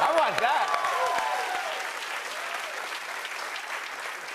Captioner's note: cheers and applause